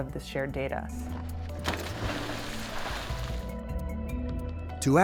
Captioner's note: water splashing